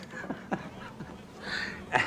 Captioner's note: laughs